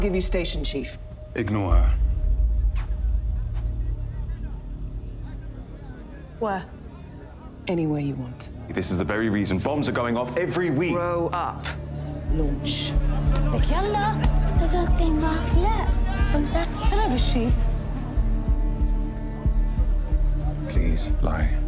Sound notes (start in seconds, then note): 14.0 foreign language; 19.0 solemn music